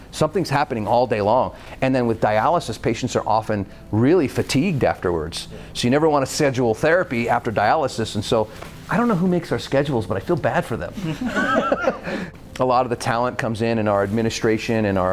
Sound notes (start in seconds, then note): 11.0 all laughing